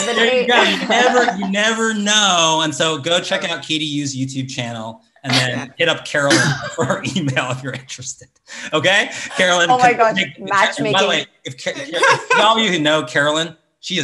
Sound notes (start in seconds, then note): 9.7 stutters